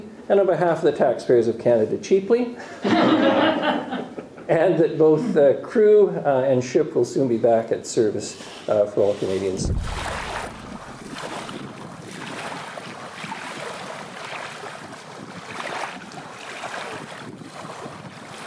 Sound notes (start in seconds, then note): 2.7 laughter; 11.0 sounds of waves lapping